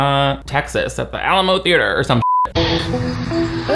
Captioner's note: beep